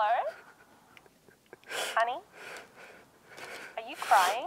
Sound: more sobbing

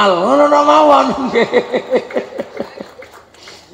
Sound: laughs

